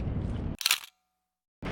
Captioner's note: camera click